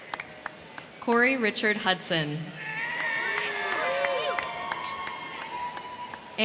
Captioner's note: crowd cheering